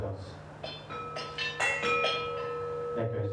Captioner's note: bell sounds